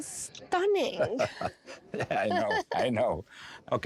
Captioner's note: laughs